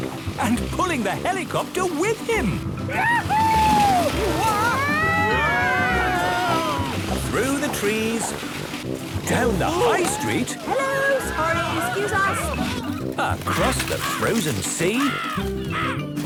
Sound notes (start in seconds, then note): 4.6 all screaming excitedly; 14.8 birds cawing